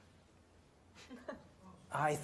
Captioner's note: laughs